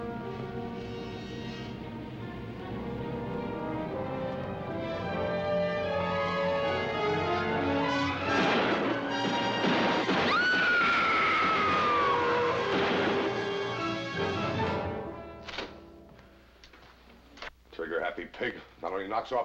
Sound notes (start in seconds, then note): 8.0 gun shots; 10.2 screaming